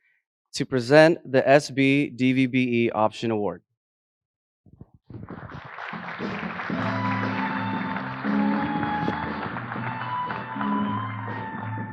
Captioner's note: applause